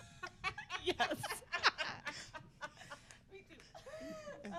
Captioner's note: all laughing